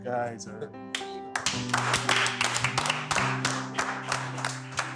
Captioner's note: clapping